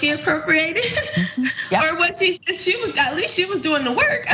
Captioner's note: laugh